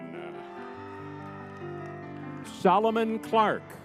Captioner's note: spirited music; crowd cheering